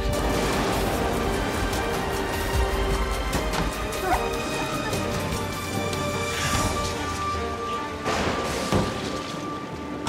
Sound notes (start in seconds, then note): 0.0 lighting, thunder, wind; 8.0 door closes